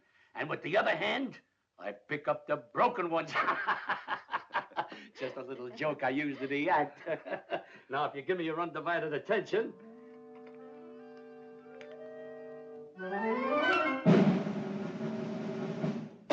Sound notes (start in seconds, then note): 3.2 laughing; 9.6 whimsical music